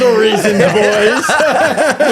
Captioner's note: all laughing